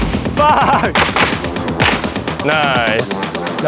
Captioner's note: gun firing